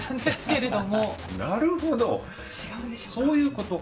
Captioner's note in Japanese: 笑い